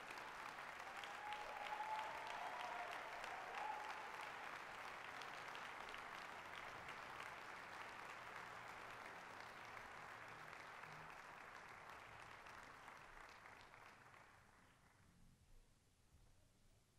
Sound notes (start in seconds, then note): 0.3 applause, cheering; 5.8 applause